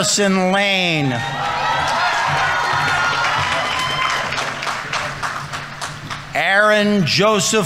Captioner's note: audience members cheering; audience applauding